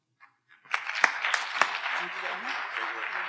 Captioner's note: audience applauding